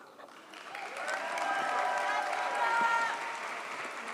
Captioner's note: audience applauds